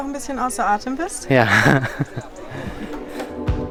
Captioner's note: laughting